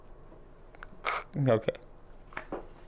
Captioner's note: imitates static